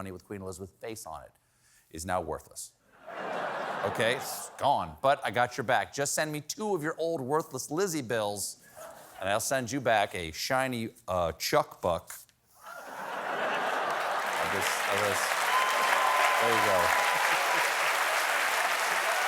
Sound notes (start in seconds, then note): 12.6 laughter